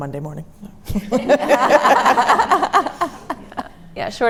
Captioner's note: laughter